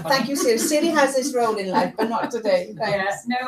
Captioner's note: laughter